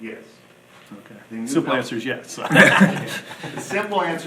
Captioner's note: laughs